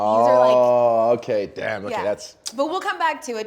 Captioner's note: clicks teeth